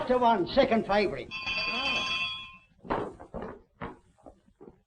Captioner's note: bell ringing